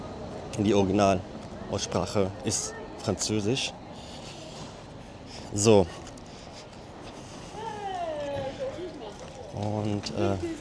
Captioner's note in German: nicht englisch